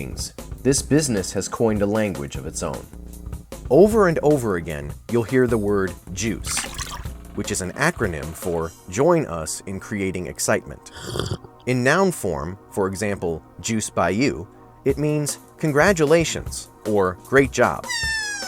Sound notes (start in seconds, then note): 6.4 splashing sound; 10.8 sipping sound